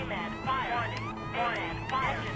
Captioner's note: multiple alarms blaring